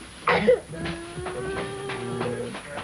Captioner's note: sobbing